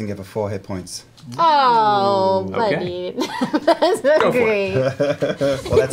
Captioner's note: laughs